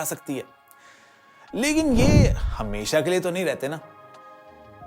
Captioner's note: storm